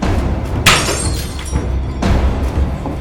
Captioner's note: none